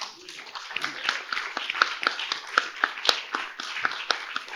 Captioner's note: audience applauding